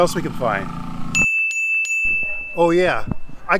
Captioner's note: chime ringing